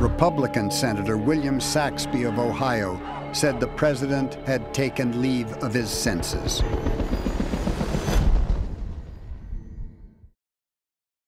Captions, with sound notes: Republican Senator William Saxbe of Ohio said the President had taken leave of his senses. (helicopters rumbling) (tense synthesizer music)